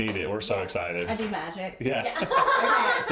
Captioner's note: laughs